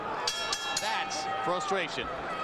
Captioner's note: bell rings